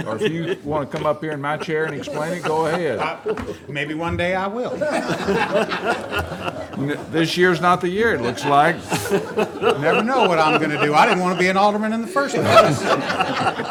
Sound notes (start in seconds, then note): 5.7 audience laughing